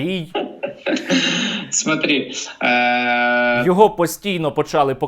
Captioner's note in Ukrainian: сміх